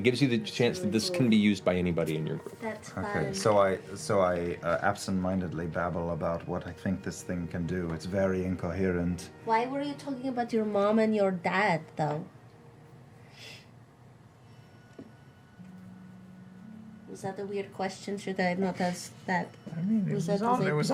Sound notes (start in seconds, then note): 12.6 silence